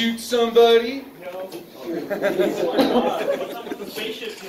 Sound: giggling

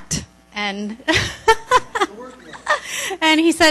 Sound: laughs

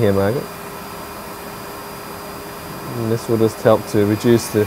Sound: loud whirring

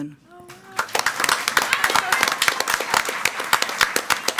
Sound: all applaud

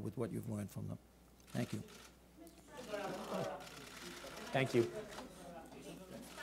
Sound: random chatter

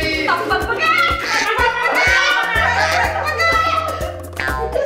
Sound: making chicken sound

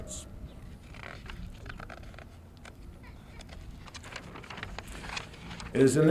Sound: paper rustling

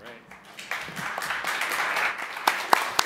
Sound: applause

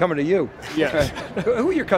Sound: both interviewees chuckling

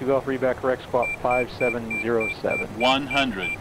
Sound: inner marker beeping

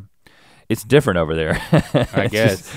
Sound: chuckles

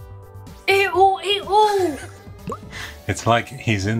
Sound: laughs

